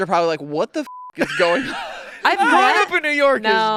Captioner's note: beep